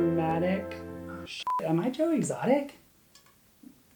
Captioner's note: beeps